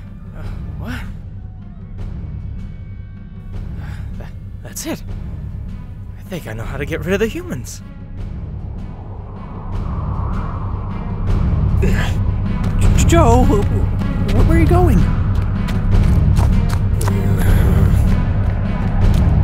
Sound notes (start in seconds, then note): 9.9 dramatic music swells; 17.1 Joe grumbling